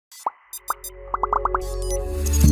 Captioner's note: bubbles popping; soft electronic music